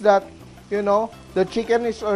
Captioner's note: sizzle